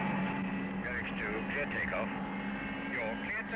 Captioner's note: tower radio - Murex 2, clear take off